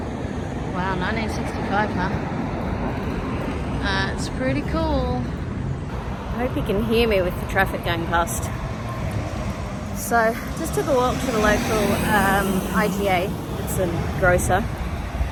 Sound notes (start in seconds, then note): none